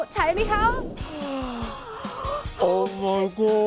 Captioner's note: gasps